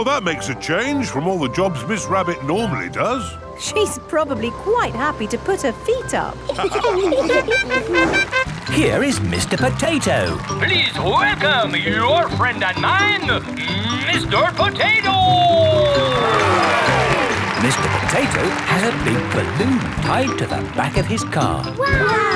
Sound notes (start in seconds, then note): 6.4 all laughing; 8.0 horn tooting; 16.7 cheering